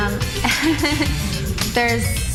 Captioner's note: laughs